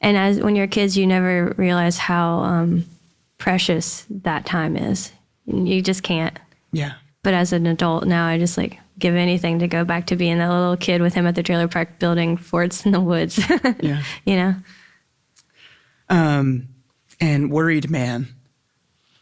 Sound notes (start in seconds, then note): 13.3 laughs